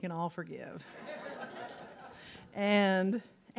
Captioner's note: audience laughs